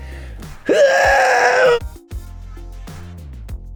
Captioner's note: grunts; upbeat music